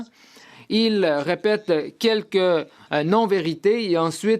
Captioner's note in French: voix de l'interprète